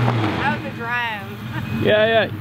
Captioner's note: laughs